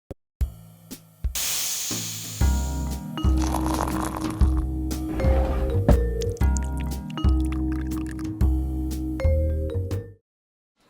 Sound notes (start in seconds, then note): 1.5 vapor hissing; 3.3 liquid pouring